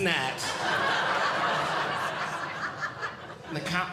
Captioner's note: audience Laughing